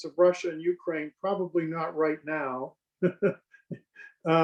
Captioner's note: laughs